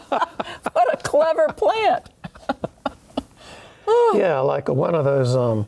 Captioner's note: laughing; laughing